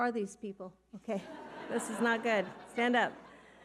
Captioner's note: audience laughing